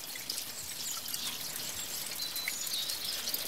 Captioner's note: birds chirping